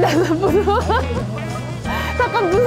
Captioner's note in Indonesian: tertawa